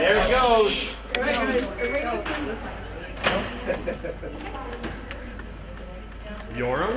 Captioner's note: ticket being checked